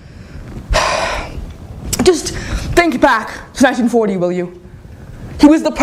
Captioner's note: sigh